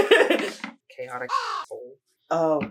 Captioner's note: caw